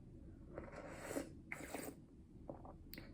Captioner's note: slurp slurp